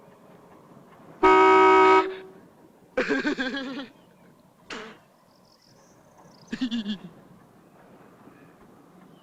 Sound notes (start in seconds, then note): 1.2 honking - laugh; 6.5 laugh